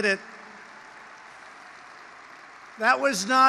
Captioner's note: applause